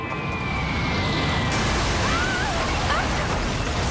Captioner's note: female scream